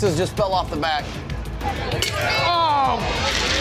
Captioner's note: shattering